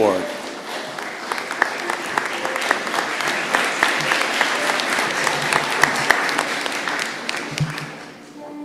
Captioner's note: applause